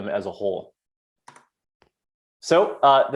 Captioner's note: keyboard clicks